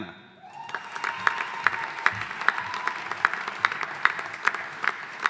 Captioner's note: audience applauding